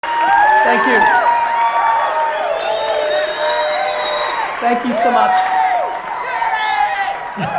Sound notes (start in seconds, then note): 0.0 audience cheering